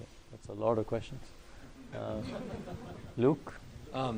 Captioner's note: laughter